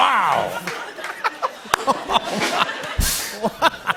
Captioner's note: laughs